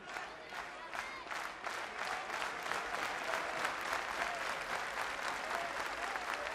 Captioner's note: clapping